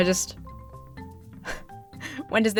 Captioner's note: exhales; laughs